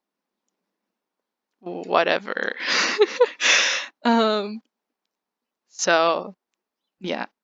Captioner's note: awkward laughing